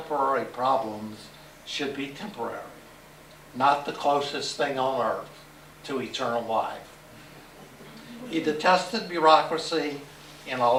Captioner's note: laughter